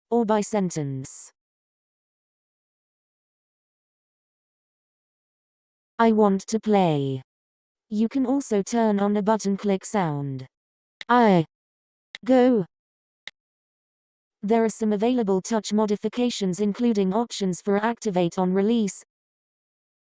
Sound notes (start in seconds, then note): 5.9 TouchChat voice; 10.8 TouchChat voice - click accompanies each word